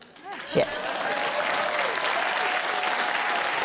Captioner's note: cheering, applause